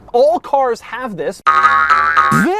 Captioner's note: BOING boing BOING boing